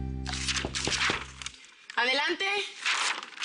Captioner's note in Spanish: Toques en la puerta